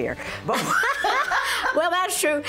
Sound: laughter

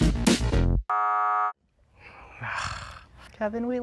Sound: buzzer buzzes

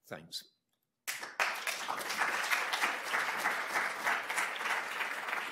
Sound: audience applauds

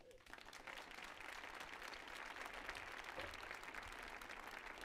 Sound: audience applauding

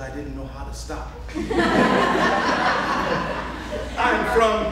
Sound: audience laughing

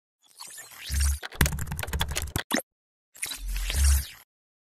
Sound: keyboard typing

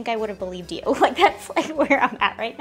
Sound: laughs

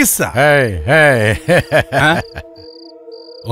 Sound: laughs

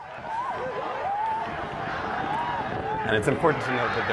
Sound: yelling

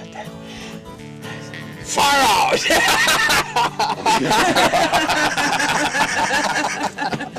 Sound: laughing

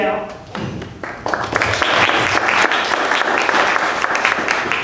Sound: applause

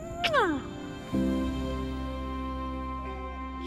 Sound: lips smacking

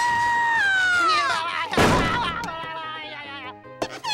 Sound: screaming; babbling; squeaking

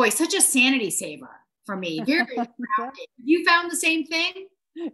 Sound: laughing

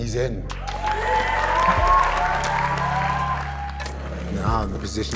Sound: audience cheering

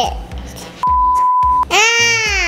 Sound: beep

